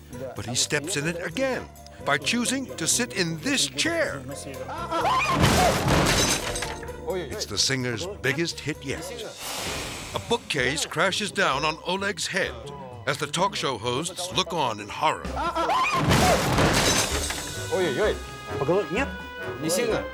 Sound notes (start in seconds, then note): 4.6 interviewers exclaiming; 5.2 bookcase thuds; 15.8 bookcase thuds; 15.8 interviewers exclaiming; 17.9 interviewer speaking Russian; 19.9 speaking Russian